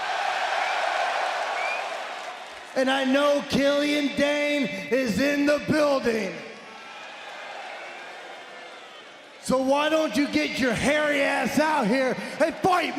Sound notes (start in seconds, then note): 2.4 crowd cheering